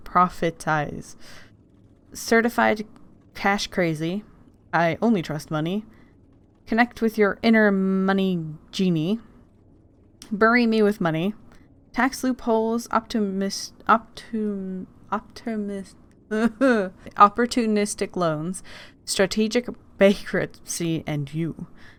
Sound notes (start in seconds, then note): 15.2 fake crying sounds